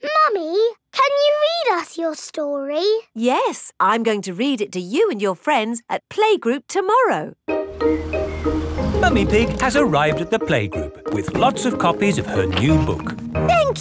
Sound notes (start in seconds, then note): none